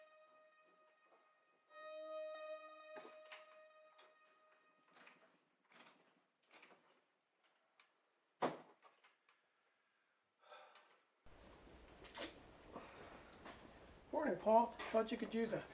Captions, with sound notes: (Paul sighing) - Morning Paul, thought you could use